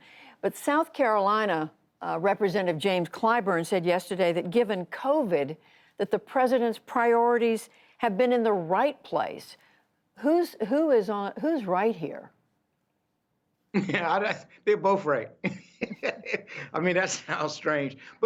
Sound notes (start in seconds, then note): 15.4 laughter